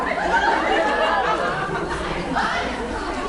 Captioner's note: laughs